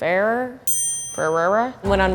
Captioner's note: bell dings